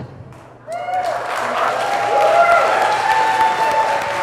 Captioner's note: crowd cheers